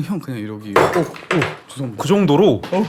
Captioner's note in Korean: 와장창